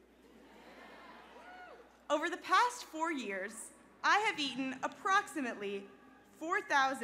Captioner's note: laughter